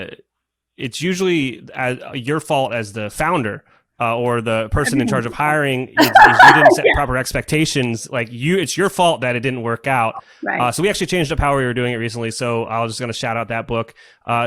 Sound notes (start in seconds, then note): 6.0 laughs